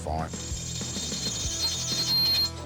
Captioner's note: grinding noise